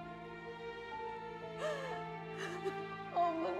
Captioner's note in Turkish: Ağlama sesi